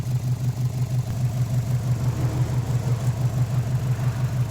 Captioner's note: more boxer rumble